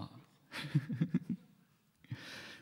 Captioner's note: laughs